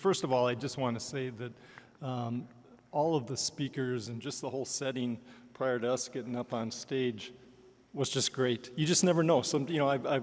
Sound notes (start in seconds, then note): none